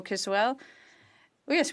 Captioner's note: speaking French